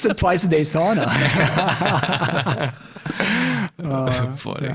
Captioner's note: all laughing